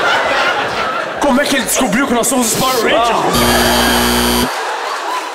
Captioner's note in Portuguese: campainha